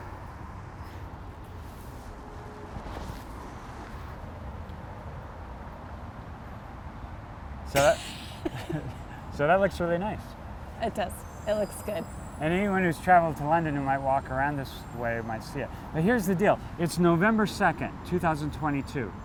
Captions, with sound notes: So that-- [laughs] So that looks really nice. It does. It looks good Anyone who's traveled to London, who might walk around this way, might see it. Now, here's the deal. It's November 2, 2022.